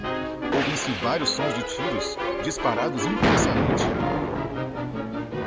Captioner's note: gunshots